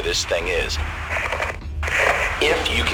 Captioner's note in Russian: громкие помехи; внезапно, к передаче добавляется эхо